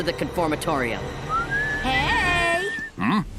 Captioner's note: Coven Guard whistling